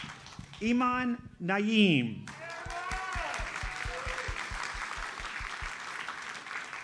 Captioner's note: audience cheers and applauds